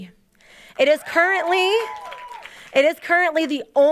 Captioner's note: audience cheering and applauding